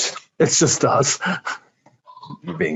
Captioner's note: laughing